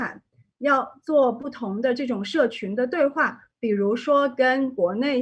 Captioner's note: none